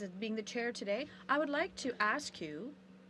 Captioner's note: speaking in french